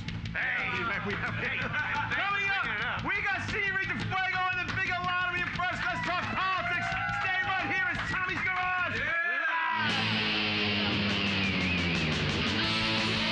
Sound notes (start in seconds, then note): 0.7 audience shouting; 7.1 cheers and applause; 9.7 hard rock music